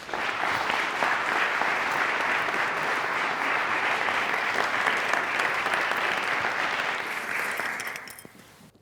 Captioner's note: applause